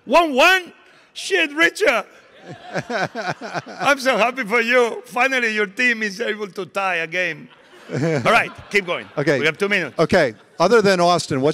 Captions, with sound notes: 1-1? Shit, Richard. (audience and laughing) I'm so happy for you. Finally, your team is able to tie a game. All right, keep going. We have two minutes. - Okay, other than Austin,